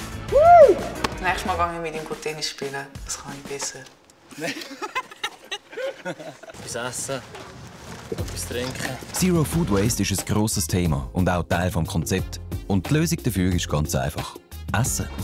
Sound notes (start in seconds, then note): 4.3 laughs